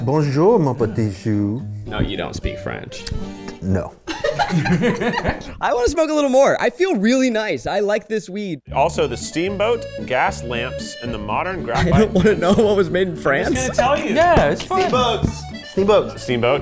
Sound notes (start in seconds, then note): 0.2 imitating in French; 2.9 upbeat instrumental music; 4.0 people laughing